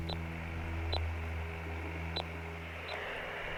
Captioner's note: machine beeping